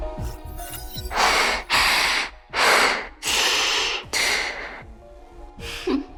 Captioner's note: huff